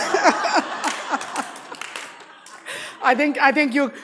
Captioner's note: all laughing